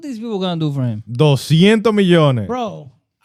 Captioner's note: speaking In Foreign Language